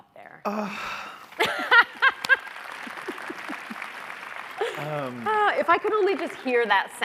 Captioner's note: laughs; audience applauds